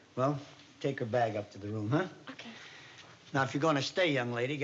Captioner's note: none